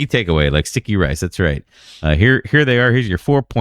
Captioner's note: uh